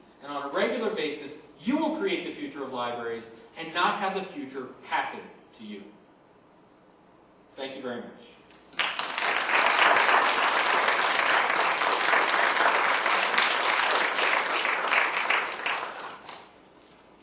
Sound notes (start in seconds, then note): 10.3 applause